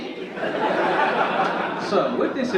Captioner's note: audience laugh